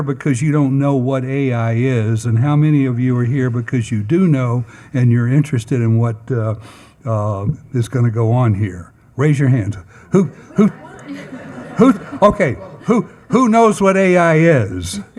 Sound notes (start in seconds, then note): 10.1 attendees laughing